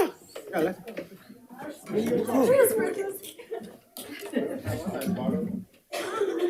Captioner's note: board Members talking and laughing off microphone